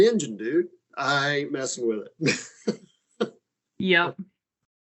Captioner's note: laughing